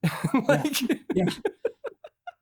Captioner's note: laughs